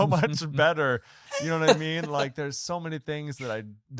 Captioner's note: laughs